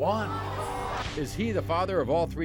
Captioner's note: audience yelling